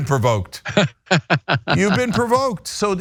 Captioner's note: laugh